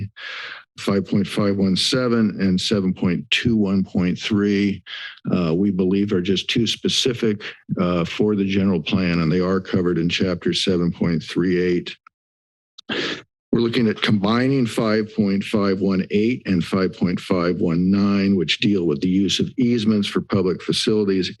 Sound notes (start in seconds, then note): 11.9 silence; 12.8 inhales